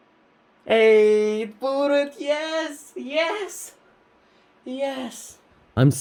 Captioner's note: happy ape noises